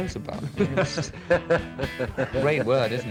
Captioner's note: laughter